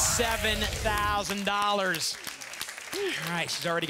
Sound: audience applause

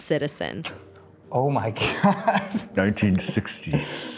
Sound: laughs

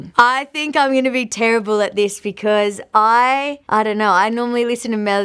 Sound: none

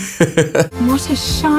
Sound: laughing

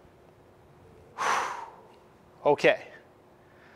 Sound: exhale; inhale

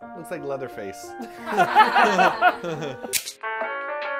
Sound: laughter

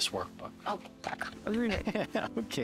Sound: laughing

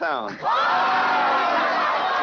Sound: cheers

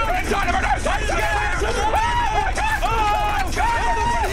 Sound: screaming; bottles rattling; screaming at each other

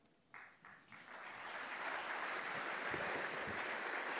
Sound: applause

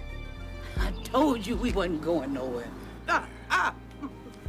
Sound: laughing

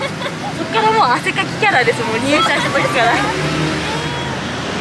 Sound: laughs

